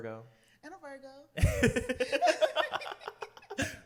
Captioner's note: laughter